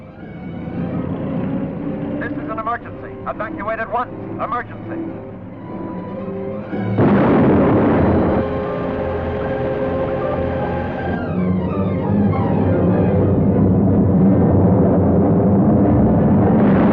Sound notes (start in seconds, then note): 6.7 loud explosion